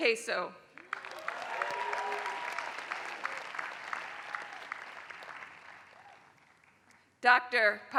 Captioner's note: applause